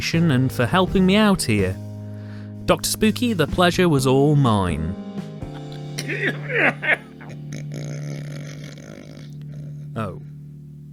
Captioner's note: drunk and snoring